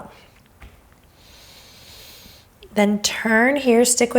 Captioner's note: exhaling